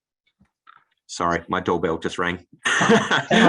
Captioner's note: laughs